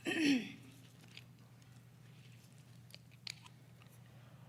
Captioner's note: clears throat